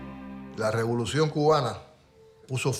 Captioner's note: speaking in Spanish